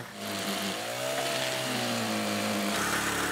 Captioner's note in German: Motordröhnen